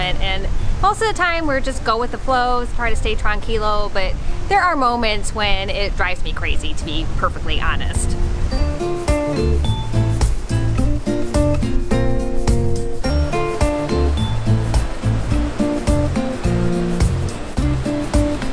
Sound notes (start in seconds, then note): 8.8 peppy guitar music; 8.8 waves crashing